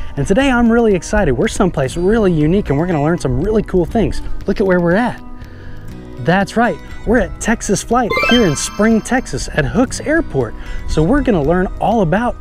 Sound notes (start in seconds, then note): 8.1 magical twinkling